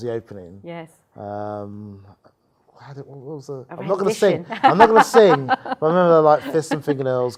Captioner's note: laughs